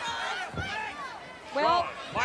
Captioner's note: audience chattering